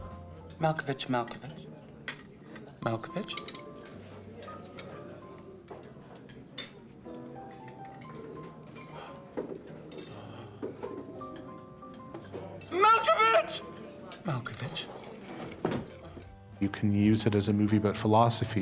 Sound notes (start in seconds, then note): 3.6 dishes clattering softly; 3.6 soft piano music